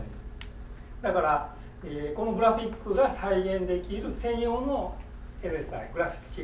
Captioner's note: speaking in foreign language